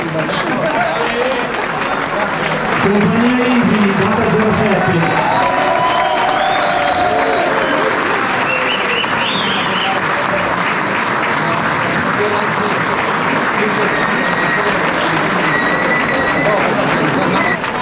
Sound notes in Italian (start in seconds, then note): 4.2 Applauso